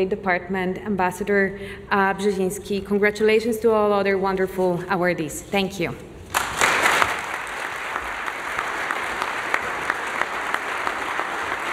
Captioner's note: applause